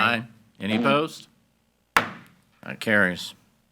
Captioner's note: hammer slamming